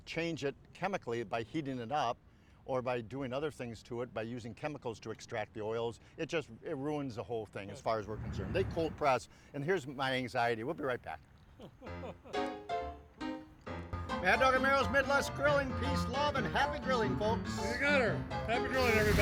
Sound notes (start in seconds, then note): 11.6 laughs; 11.9 upbeat piano music